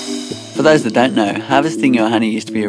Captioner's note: voiceover